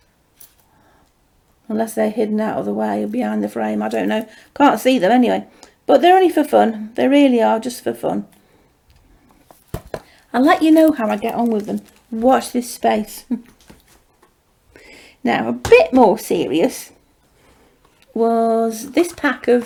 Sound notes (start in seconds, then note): 13.2 chuckles